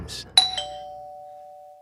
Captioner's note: doorbell